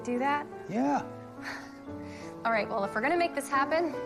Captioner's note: none